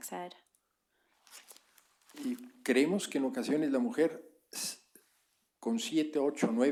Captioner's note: spanish